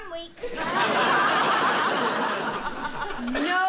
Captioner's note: laughter